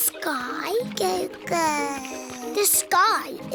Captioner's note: babbles